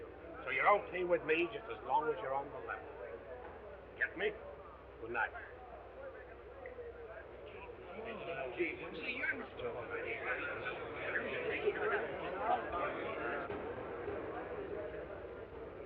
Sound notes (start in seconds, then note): 6.0 all chattering; 7.9 crowd muttering; 12.1 crowd muttering